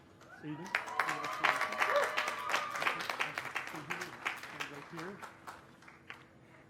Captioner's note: cheers and applause